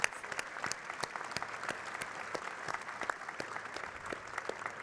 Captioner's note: audience clapping